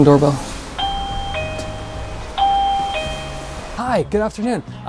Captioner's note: doorbell ringing